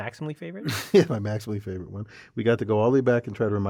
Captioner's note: laugh